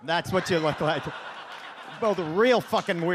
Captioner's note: audience laughs